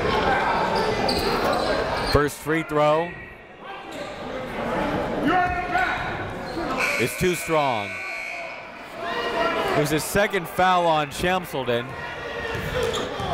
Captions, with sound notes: First free throw is too strong. (buzzer goes off) It's the second foul on Shamsaldeen.